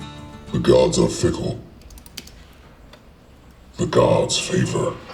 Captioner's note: voice On Computer